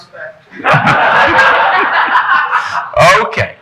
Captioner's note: audience laughing